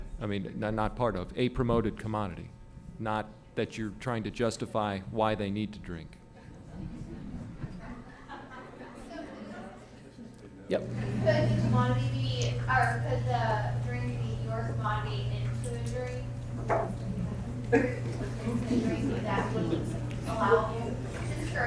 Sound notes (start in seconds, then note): 8.5 laughter